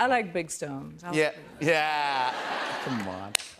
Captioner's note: laughter